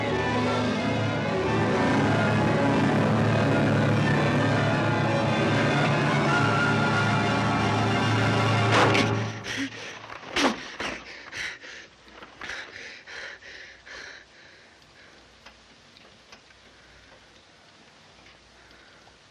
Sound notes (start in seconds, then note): 9.3 gasping; 10.8 panting